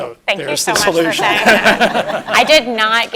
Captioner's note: laugh